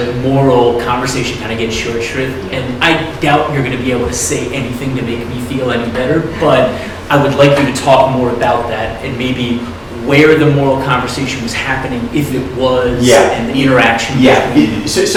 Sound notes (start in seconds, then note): 7.1 laughing